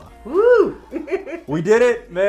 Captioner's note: laughs